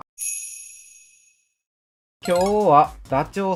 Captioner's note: bell